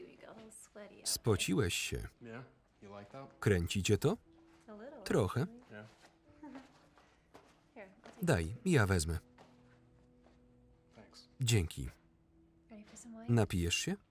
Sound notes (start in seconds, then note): 6.4 Claire giggles; 8.8 gentle music